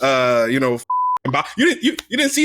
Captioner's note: beep